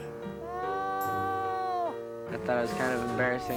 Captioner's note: crying